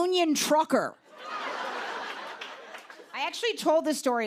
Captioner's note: laughter